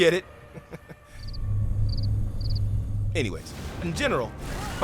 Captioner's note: crickets chirping